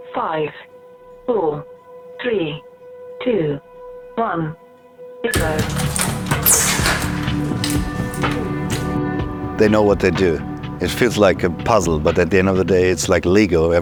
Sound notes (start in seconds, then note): 5.3 ropes clacks